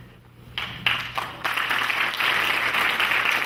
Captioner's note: clapping